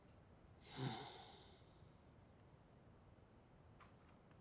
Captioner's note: sighs